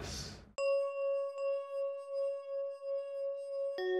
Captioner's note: chiming